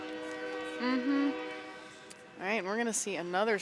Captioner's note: horn blows